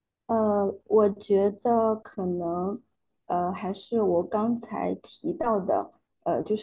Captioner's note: speaking in foreign language